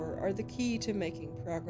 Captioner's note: none